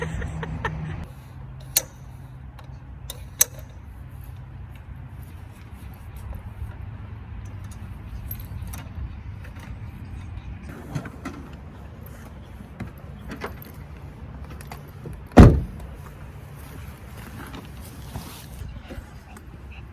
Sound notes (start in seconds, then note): 0.0 laughs; 1.2 pins in legs of table click loudly into place